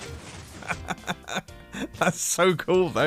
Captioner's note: laughs